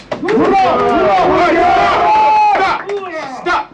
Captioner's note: yelling